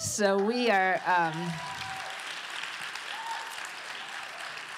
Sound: applause

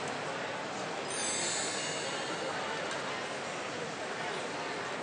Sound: chime

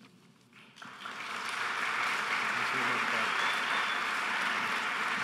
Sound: audience applauding

